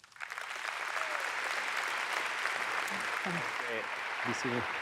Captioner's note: audience applauds